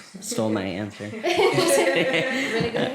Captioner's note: laughter